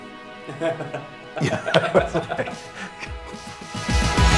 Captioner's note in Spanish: Risas